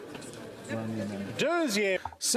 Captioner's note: speaking French